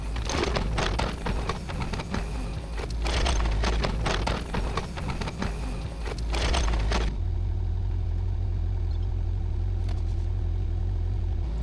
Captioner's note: machinery whirring